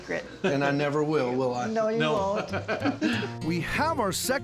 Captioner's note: laughing